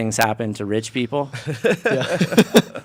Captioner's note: laughing